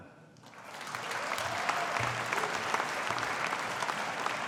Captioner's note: audience applauding